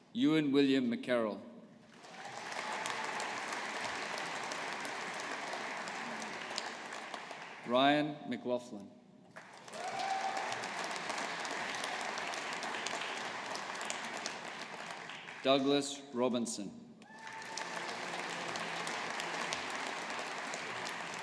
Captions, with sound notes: Ewan William McKerral. (AUDIENCE APPLAUDING) Ryan McLaughlin. (AUDIENCE APPLAUDING) Douglas Robinson. (AUDIENCE APPLAUDING)